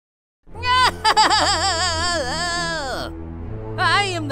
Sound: decrepit giggling

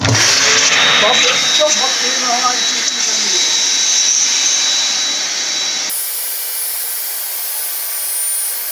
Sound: machine starting noise

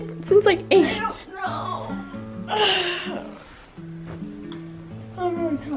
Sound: yawns aloud

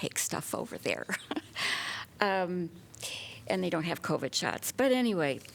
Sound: laughter

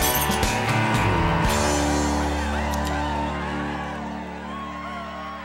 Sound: patrons cheering and whistling

